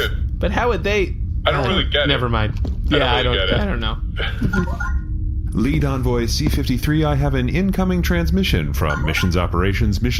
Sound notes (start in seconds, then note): 4.6 communicator chimes